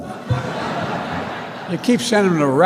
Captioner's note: laughter